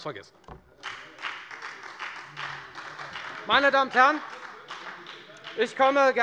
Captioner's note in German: Beifall bei der FDP und bei Abgeordneten der SPD - Zurufe von der CDU